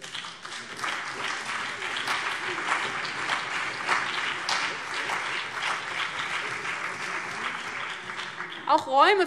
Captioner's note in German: Beifall CDU und BÜNDNIS 90/DIE GRÜNEN